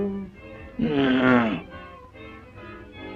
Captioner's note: grunt